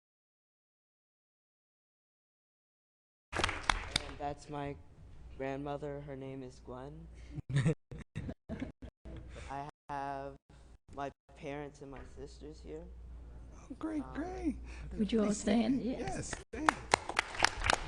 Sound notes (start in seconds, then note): 3.3 applause